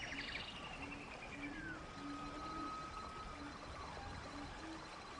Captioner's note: birds Chirping